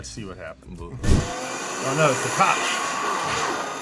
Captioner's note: engine roaring